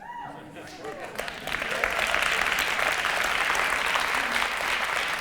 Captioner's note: audience applause